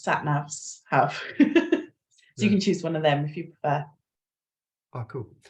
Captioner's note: chuckles